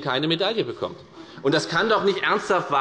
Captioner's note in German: Lachen bei Abgeordneten der FDP